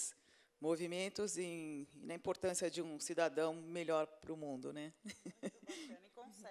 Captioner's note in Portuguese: risos